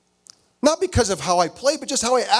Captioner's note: none